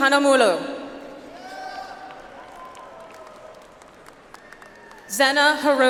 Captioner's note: audience applauds